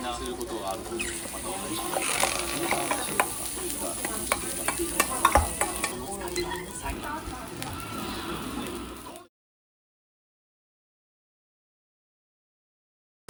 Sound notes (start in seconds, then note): 7.2 sizzling; 7.2 지글지글